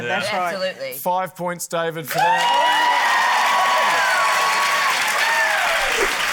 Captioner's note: cheering, applause